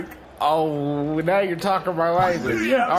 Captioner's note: excited